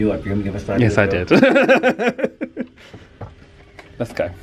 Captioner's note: laughs